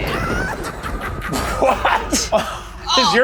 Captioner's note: Joker laughs